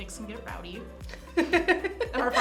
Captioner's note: laughs